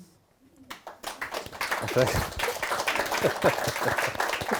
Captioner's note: crowd applauding